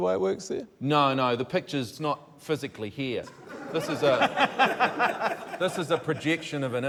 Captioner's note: laughter